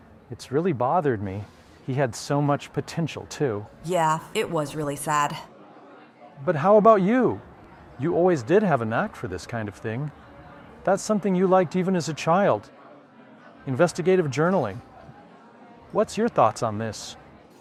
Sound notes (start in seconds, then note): none